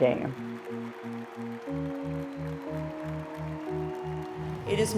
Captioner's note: crowd cheering